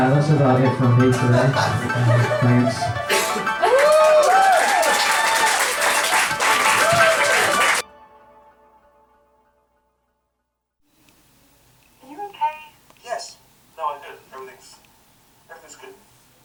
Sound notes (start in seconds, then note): 3.0 cheering and applause